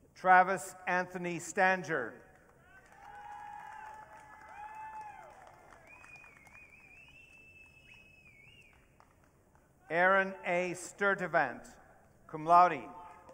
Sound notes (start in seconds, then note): 2.8 audience cheering; 13.1 audience cheering